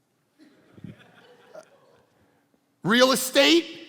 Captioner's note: congregation laughing